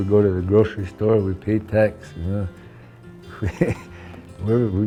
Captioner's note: chuckles